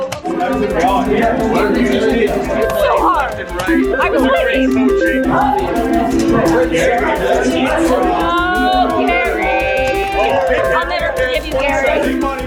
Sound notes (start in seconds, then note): 0.1 buttons mashing; 6.0 people chattering